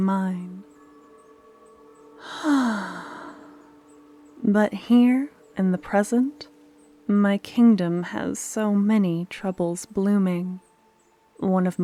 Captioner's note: sigh